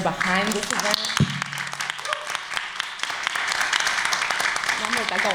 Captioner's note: applause